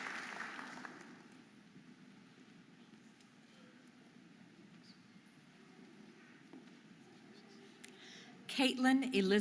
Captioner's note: audience applauding and cheering